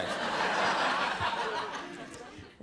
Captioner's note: laughter